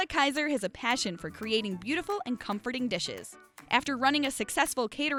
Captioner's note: none